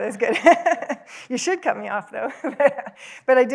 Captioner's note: laughs